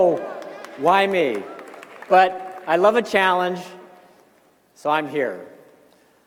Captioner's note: cheers and applause